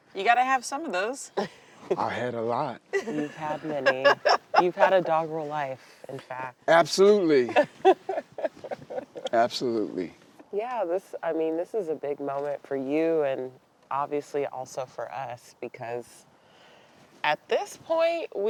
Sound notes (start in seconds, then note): 9.8 laughing